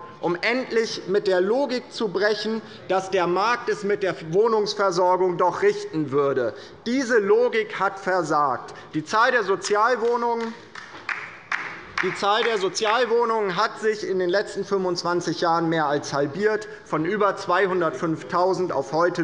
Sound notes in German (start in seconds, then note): 9.6 Beifall bei der LINKEN